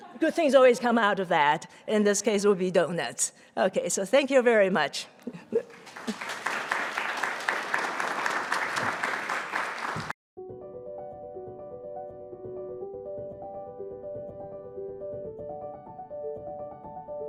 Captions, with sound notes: good things always come out of that, in this case will be donuts. Okay, so thank you very much. (audience applauding) (lively piano music)